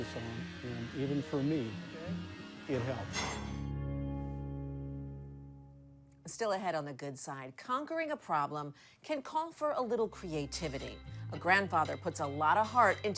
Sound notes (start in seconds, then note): 3.2 metallic clanking; 3.2 upbeat music fades